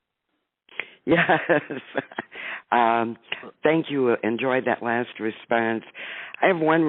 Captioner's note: laughing